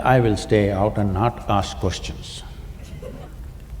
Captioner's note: laughter